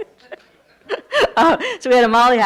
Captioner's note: laughing